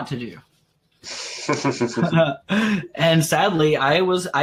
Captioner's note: laughs